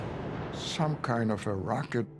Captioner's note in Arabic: دوي انفجار